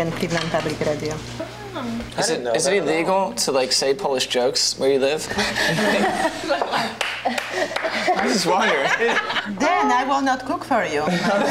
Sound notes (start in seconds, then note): 0.1 speaking in foreign language; 5.4 everyone laughs